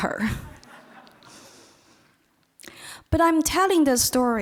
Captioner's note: audience laughing